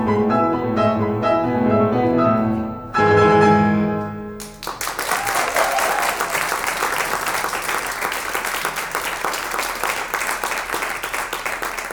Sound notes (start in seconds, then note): 4.4 audience applauds